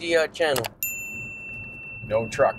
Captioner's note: bell chiming